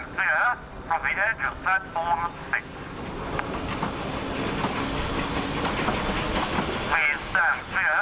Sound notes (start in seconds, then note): 2.9 train passes